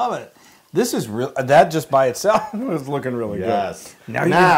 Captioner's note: laugh